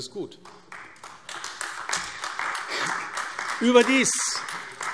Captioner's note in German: Beifall AfD